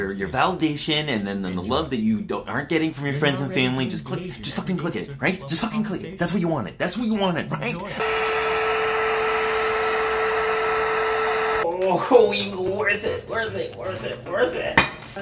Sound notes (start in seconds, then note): 8.0 static